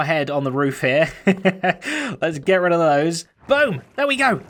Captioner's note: chuckles